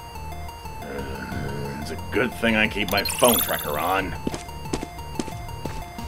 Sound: growls

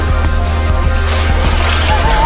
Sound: metal barriers rattle

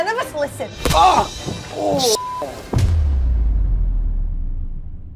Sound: beeping

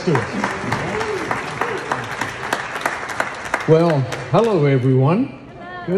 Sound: applause

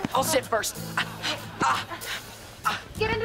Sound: groaning

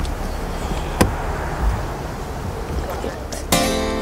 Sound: latch clicking

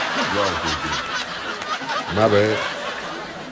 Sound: laughs

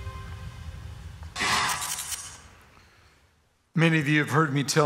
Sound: letters buzz

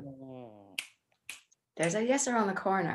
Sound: snaps fingers

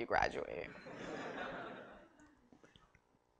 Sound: laughter

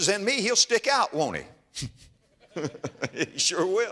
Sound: audience laughter

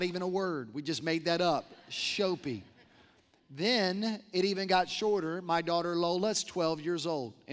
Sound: laughter

